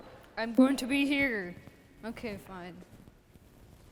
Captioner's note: none